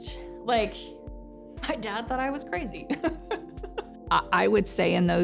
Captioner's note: laughs